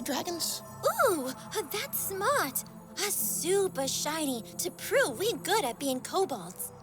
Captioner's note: none